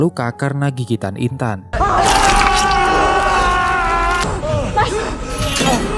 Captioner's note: screaming